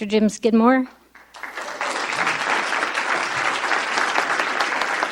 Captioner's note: audience applauding